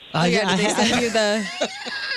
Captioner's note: laughing